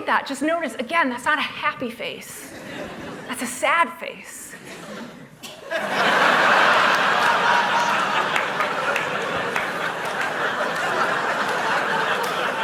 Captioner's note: laughter